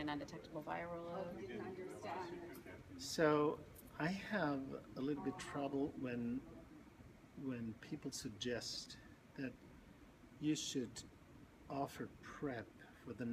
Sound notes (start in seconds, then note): 2.0 background chatter